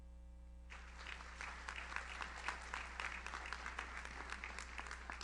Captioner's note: audience applauds